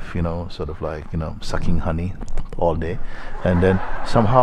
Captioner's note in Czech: smích